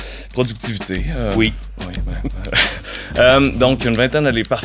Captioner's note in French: rires